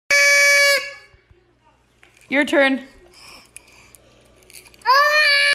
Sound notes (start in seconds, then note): 0.1 horn sound; 3.0 baby breathing noises